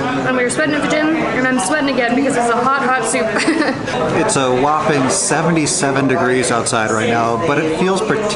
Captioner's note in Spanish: Risas